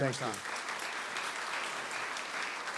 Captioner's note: applause